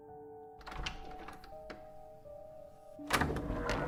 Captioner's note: door unlocking; creaking open